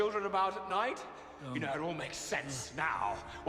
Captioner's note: groaning